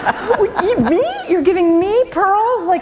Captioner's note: laughter